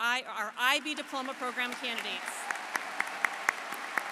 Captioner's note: applause